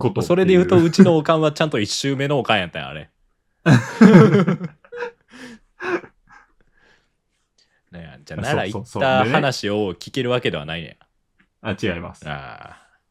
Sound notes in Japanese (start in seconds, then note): 3.6 笑い; 5.3 息をのむ音